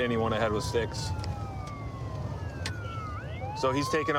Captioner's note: sirens wailing